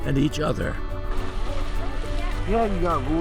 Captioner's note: water churns